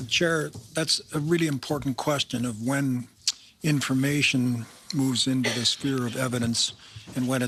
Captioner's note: speaking in French